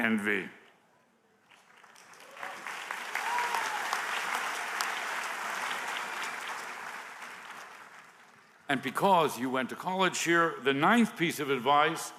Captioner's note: applause